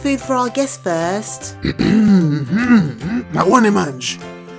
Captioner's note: grunts of approval